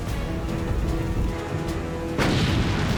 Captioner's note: explosion